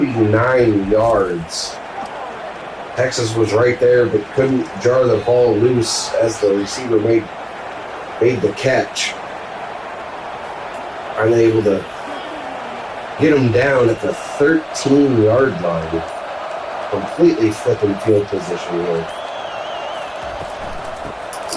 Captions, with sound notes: 49 yards. [Crowd Noises] Texas was right there, but couldn't jar the ball loose as the receiver made the catch. [Crowd Noises] Unable to get him down at the 13 yard line, completely flipping field position. [Crowd Noises]